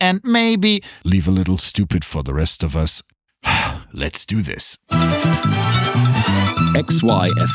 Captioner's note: sigh